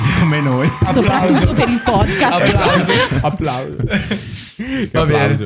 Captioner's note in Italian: applause